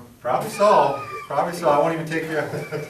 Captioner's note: laughs